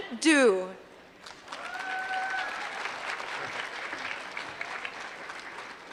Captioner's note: applause